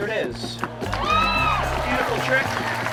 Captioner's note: audience cheering and applauding